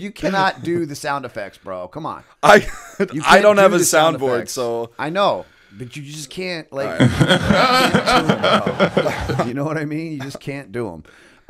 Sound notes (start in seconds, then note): 6.9 laughter